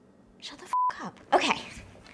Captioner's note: beep